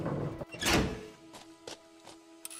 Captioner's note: gears rumbling; door slamming; object clicking